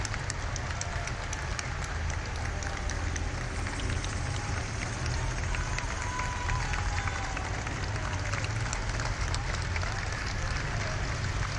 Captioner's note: applause